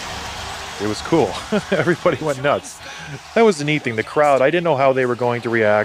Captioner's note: laughs